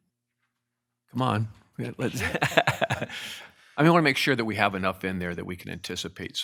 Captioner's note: laughs